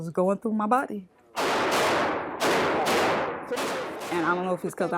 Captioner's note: gunfire booming